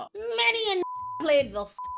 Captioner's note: beep